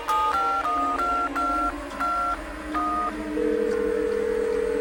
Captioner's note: touch tones and ringing